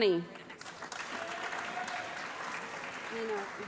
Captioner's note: applause